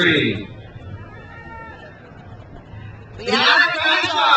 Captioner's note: crowd cheers